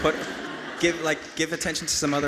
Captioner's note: audience laughing